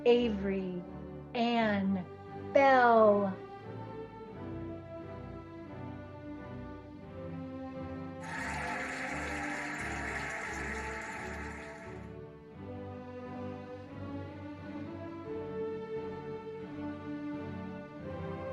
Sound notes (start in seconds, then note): 4.6 cheerful music; 8.2 cheering and applauding